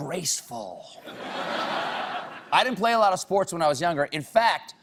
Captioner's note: laughter